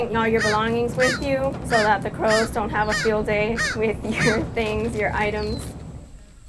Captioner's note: laughing